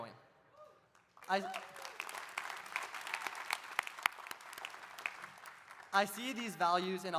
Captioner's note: audience applauding; audience cheering